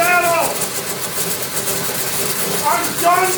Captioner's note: coolant hissing